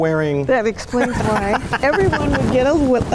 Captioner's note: laughs